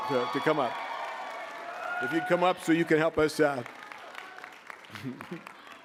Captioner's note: applause